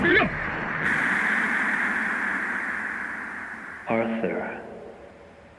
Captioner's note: speaks in a foreign language